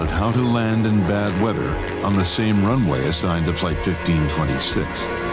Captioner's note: plane engine roaring